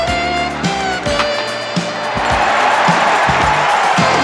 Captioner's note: bat hits ball